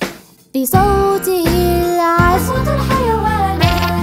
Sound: animal sounds

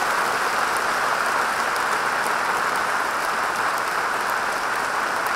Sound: audience applauding

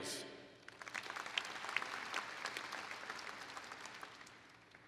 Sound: applause

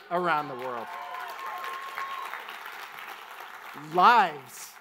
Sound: audience applauds

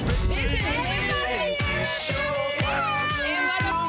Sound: girls shouting

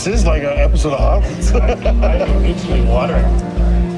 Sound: laughter

